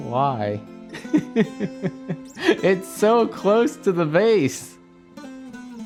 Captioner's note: laughs